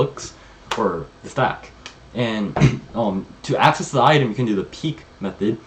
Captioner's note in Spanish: se aclara la garganta